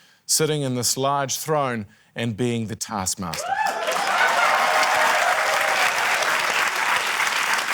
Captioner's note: cheering, applause